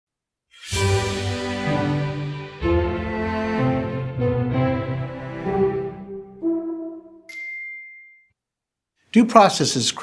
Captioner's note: classical music; chime